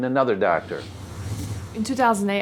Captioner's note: whooshing